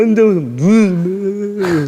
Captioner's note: crying his eyes out